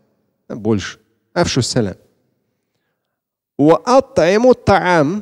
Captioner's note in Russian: Говорит на арабском